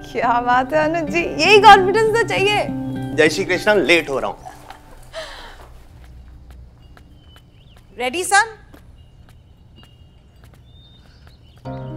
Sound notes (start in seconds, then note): 4.4 Gauravi sighs